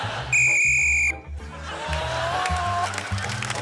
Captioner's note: whistle blows